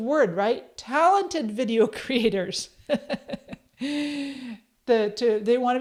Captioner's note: chuckles